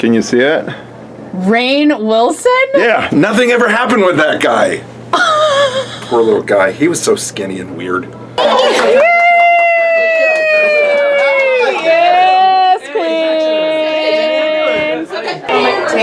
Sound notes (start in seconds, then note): 5.1 Leslie laughs; 8.4 Leslie cheering